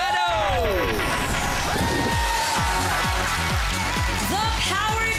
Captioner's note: audience cheering